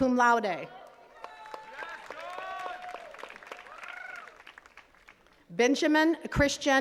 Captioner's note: attendees cheering and clapping